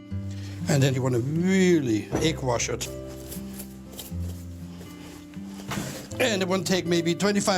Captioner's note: liquid brushing